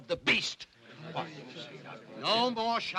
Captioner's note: uneasy chatter